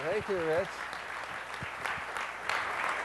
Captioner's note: applause